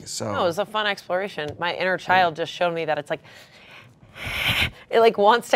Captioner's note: grunts